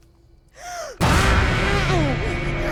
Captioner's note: item clanks; Dorothy gasps; Glinda screaming; dramatic music